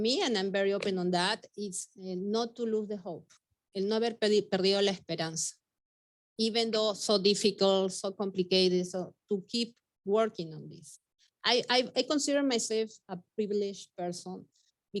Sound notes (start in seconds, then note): 4.0 speaking Spanish